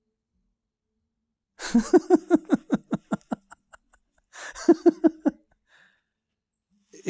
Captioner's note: laughing